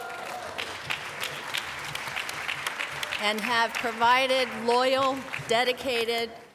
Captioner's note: applause